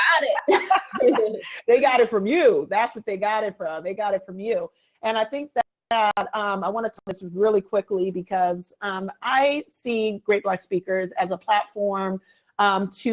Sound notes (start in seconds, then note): 0.3 both laugh